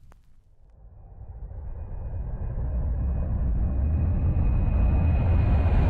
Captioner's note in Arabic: الطائرات تقترب